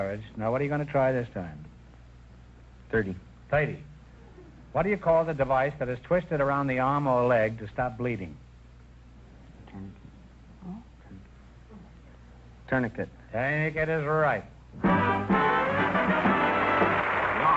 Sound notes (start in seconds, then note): 9.6 whispering; 14.9 triumphant music & applause